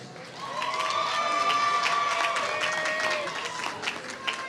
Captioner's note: applause